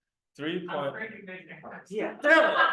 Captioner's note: laughter